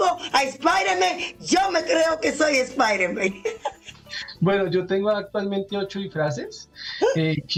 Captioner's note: laughs